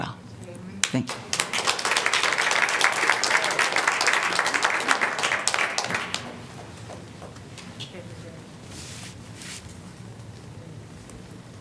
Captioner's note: applause